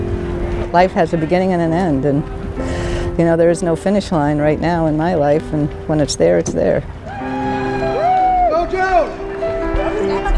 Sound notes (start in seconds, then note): 7.0 people cheering; 7.8 gentle music